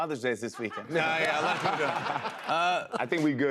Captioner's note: laughter